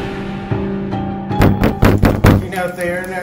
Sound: sound of banging on door

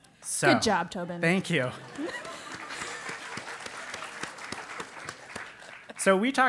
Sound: applause

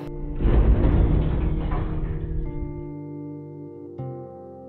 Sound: bulldozer smashing

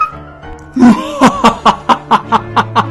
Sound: evil laugh

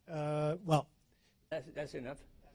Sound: laughter

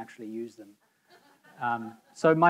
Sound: audience members laughing

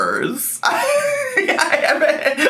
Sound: laughing

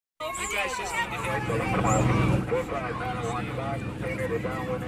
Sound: talking excitedly

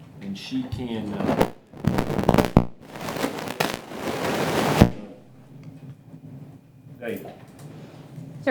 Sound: inaudible static

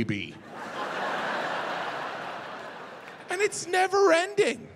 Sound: audience laughing

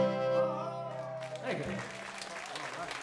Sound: applause

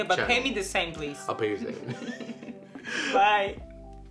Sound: they laugh

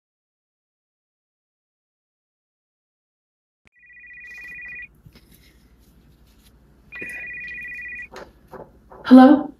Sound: phone rings

